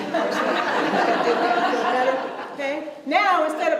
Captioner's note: audience laughs